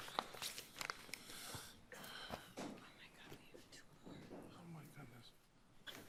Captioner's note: papers rustling; justices whispering